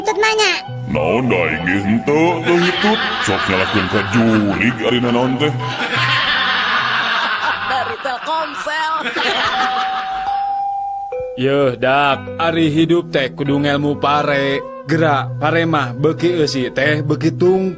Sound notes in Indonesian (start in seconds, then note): 10.3 tertawa